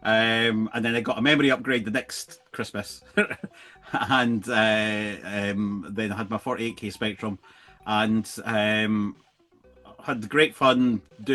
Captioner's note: laughs